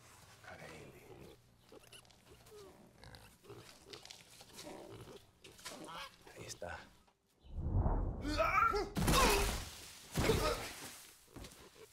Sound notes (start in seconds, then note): 0.7 pigs oinking; 6.0 speaking in Spanish; 7.8 grunting